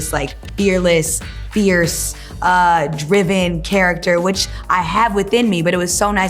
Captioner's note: none